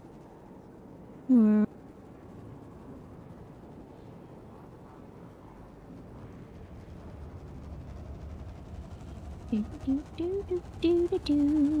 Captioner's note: humming